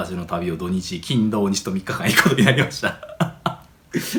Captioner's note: laughs